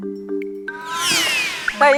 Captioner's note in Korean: 쌔앵